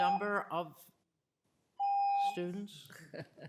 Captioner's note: ringing bell